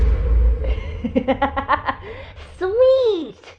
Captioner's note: laughs